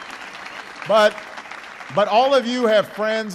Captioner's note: applause